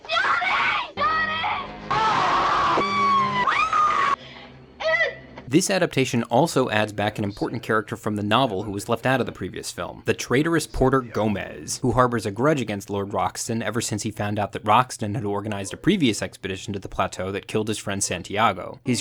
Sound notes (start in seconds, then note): 1.9 people screaming; 3.6 woman screaming